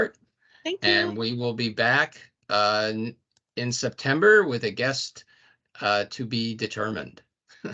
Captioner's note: laughing